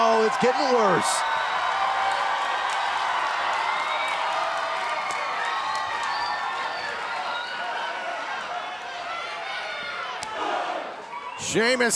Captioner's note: cheers and applause